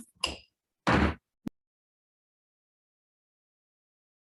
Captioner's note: gavel bangs